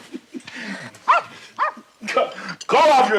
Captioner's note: Barney chuckling; dog barking